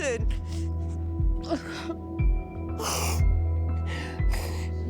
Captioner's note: sobs